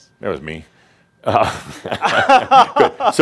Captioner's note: they laugh